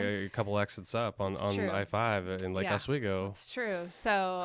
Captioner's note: murmurs